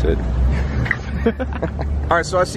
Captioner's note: laughing